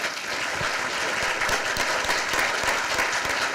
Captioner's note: applause